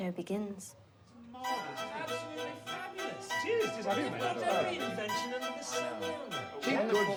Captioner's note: group chattering; upbeat classical music